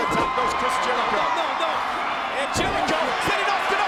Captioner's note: audience cheers